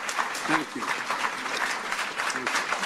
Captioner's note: applause